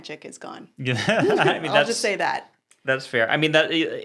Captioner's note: laughs